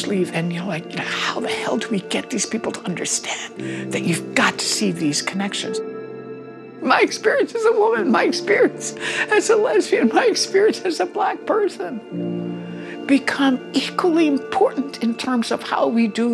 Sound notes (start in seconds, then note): 5.7 voice breaking